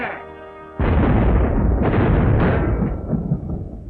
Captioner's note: cannons booming